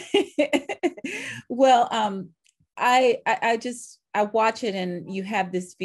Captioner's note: laughing